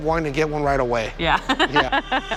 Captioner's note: laughs